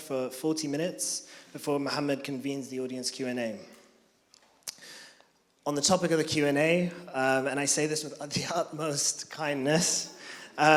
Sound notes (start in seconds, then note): none